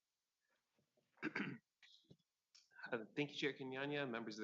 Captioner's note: clears throat